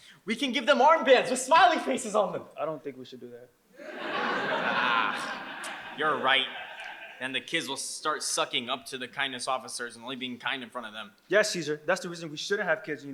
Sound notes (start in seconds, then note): 3.8 audience laughs